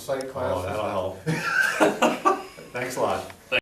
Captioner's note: laughs